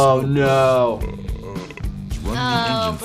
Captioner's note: man in video belching